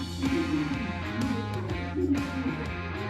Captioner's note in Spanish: Hablan al unísono